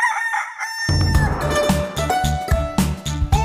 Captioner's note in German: Hahn kräht; Titelmelodie